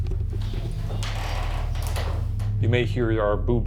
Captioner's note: floor creaks